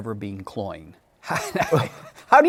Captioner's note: laughs